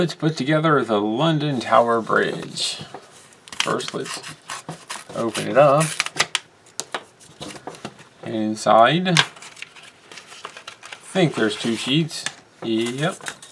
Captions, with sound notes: Let's put together the London Tower Bridge. First lets... [tearing sounds] open it up. And inside.. I think there's two sheets.. Yep.